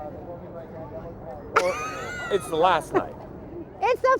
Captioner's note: laughs